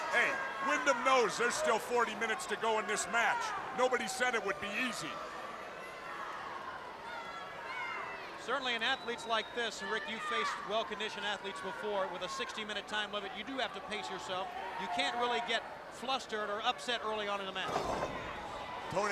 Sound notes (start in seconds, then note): 6.3 crowd chattering